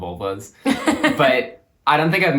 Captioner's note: laughs